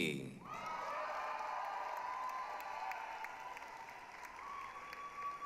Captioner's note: applause, cheering